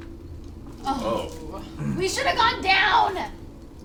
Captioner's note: all groan